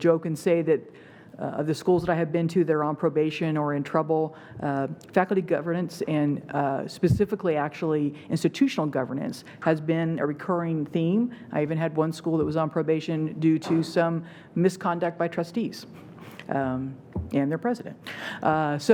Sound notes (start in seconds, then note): none